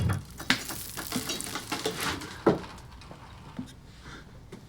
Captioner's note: cement crumbling